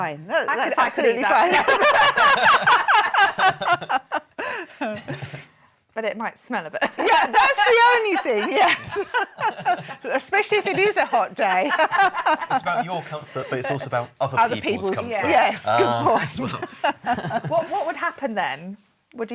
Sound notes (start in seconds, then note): 1.3 laughing; 7.2 laughing